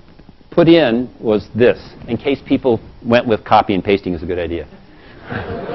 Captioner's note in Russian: Смеется